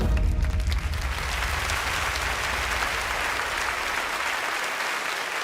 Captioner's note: dramatic music ends; clapping